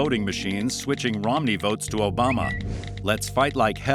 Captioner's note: Twitter chime